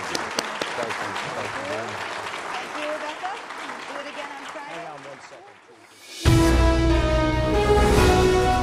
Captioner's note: applause